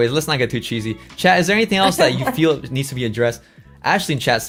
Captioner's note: laughs